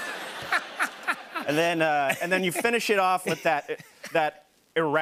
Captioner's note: laughter; normal voice